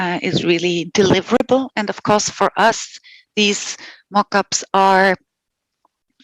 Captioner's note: non-english speech